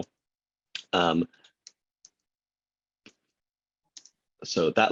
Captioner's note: keyboard clicking